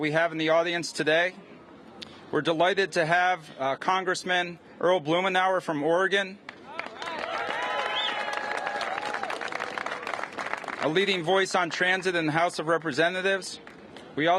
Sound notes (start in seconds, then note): 6.6 cheers and applause